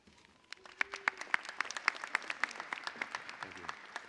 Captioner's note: applause